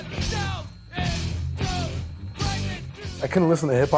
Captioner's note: man shouting